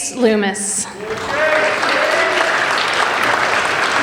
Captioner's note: applauding